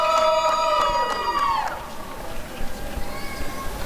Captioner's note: applause and cheering